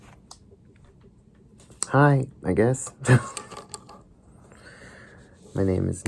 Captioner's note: chuckles